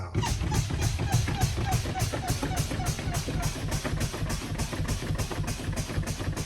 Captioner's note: air hissing